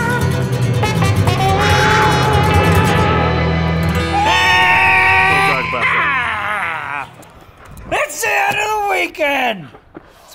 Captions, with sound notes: (cheering) - It's the end of the weekend!